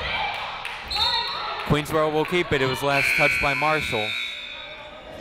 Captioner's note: whistle, buzzer